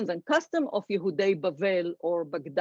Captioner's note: speaks foreign language